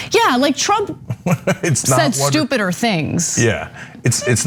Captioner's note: laugh